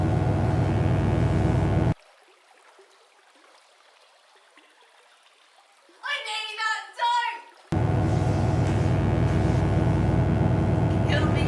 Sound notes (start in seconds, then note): 2.5 water falling; 7.7 electric buzzing